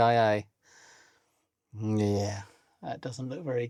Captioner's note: silence